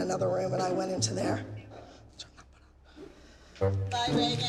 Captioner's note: whispers